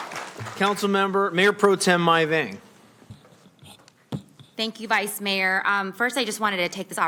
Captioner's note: applause